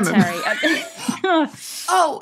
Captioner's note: group laughing